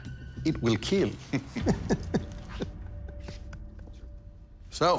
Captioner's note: laughter